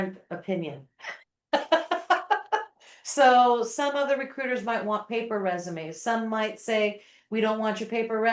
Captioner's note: laughing